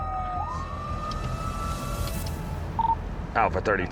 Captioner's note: siren wailing